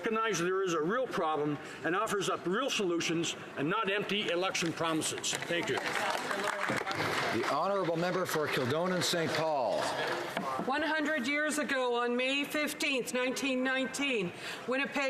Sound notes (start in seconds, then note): 10.0 some Applause